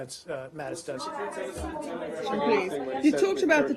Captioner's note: reporters chatter